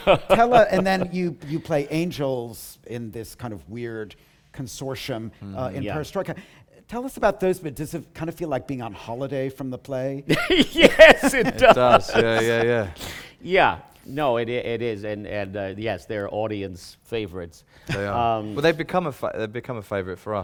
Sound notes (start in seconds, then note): 10.3 laughing